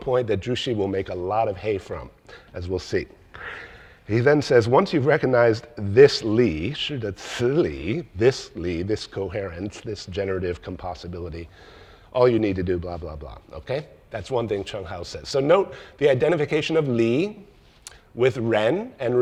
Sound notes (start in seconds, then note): 7.0 speaks in foreign language